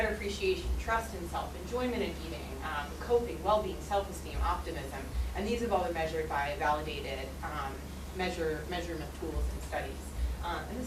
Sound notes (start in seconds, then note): none